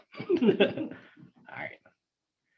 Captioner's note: laughs